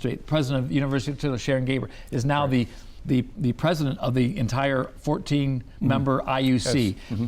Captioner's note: none